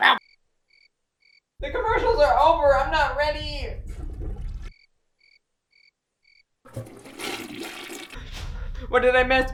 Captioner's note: toilet flush